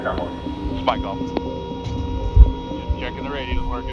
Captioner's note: machine whirs